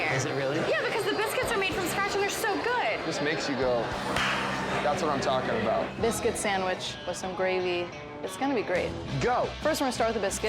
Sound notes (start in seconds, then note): 4.0 claps hands